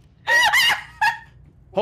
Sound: laughs

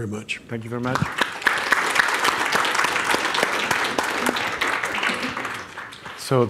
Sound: audience applauding

